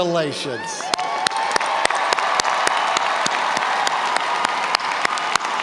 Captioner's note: audience cheers and applauds